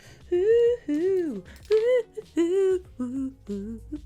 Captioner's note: humming